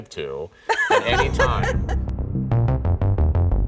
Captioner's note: laughing; suspenseful music